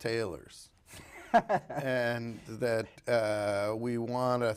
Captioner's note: laughs